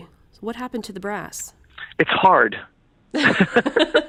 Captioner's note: laughs